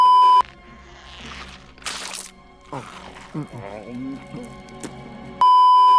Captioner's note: wet eating sounds